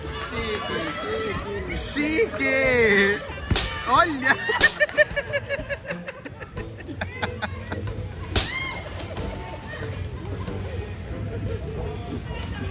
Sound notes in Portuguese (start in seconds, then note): 4.2 risos